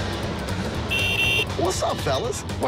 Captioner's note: horn honking